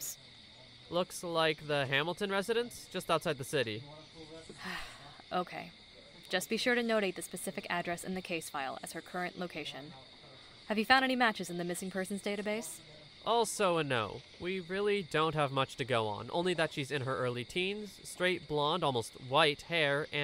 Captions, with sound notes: POLICE DEPUTY Looks like the Hamilton residence just outside the city. ANGELIQUE (sigh) Okay, just be sure to notate the specific address in the case file as her current location. Have you found any matches in the missing persons database? POLICE DEPUTY Also a no. We really don’t have much to go on. Only that she’s in her early teens, straight blonde almost white hair, and that